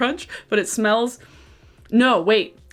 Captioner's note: inhales deeply